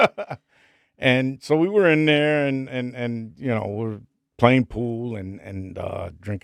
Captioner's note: laughing